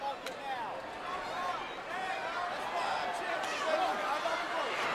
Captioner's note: audience cheering